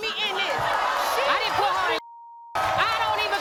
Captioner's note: beep